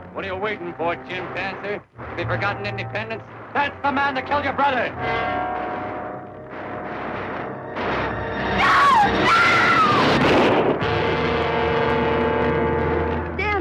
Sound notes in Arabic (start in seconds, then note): 5.3 موسيقى درامية; 6.8 صوت طلقات نارية; 9.8 صوت طلقات نارية